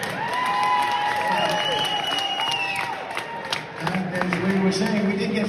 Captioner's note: applause